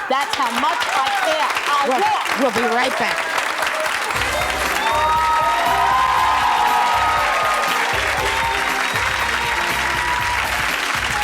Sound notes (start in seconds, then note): 4.1 jazzy music; 5.3 audience applause